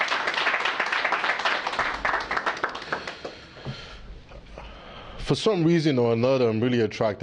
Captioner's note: applause